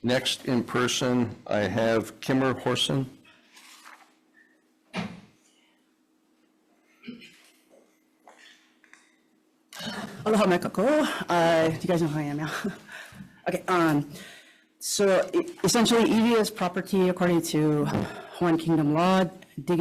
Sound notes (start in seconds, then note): 10.9 speaks Hawaiian